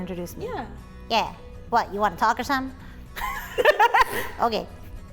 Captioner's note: laugh